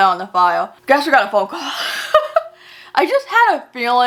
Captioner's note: laughs